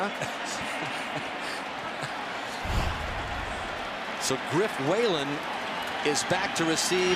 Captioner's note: laughs